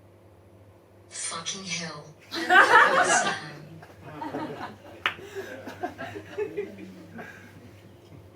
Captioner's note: audience laughs